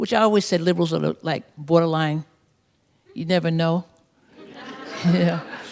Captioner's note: laughter